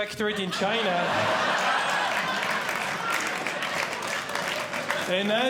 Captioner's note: audience Laughing